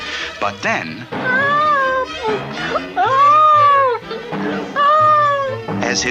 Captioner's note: bouncing!